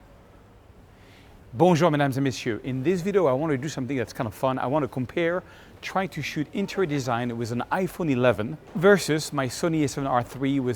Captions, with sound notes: (speaking in foreign language) In this video I wanna do something that's kind of fun. I wanna compare trying to shoot interior design with an iPhone 11 versus my Sony a7R III